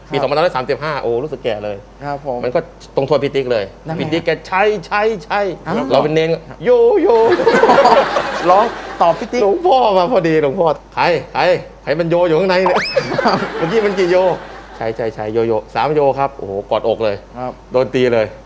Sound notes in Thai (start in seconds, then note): 7.2 เสียงหัวเราะ